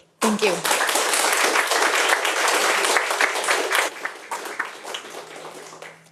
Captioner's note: audience applauding